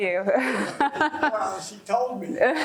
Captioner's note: laughing